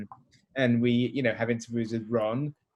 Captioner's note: speaker speaking in a low voice